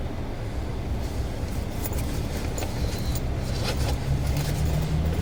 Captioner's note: bag rustling